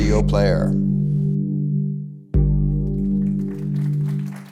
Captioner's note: music and applause